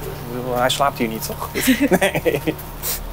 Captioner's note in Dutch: lachend